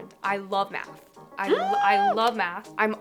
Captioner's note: joyful scream